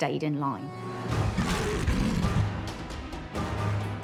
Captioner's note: snarling